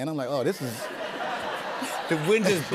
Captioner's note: laughter